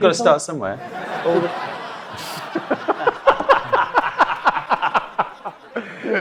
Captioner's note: audience and panel laughing